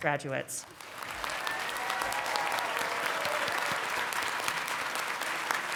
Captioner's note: congregation clapping